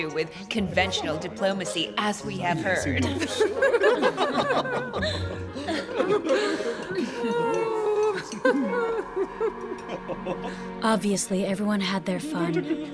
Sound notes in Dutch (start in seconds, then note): 3.5 mensen lachen; 7.3 dramatische muziek